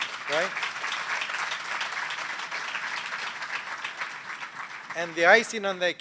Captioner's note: applause